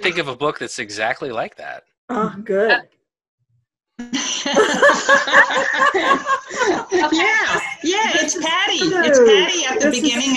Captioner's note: laughter